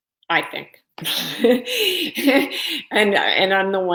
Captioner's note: laughing